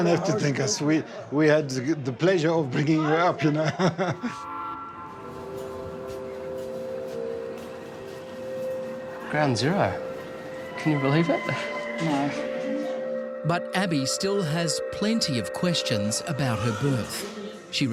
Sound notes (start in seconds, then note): 3.3 chuckling; 5.1 dissonant instrumental music